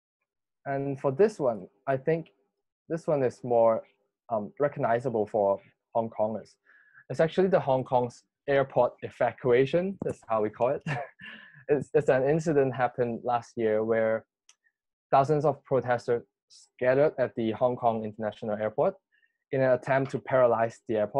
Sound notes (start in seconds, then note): 10.8 laughs